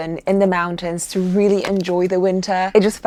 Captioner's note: axe chopping